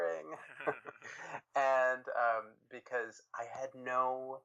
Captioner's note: chuckles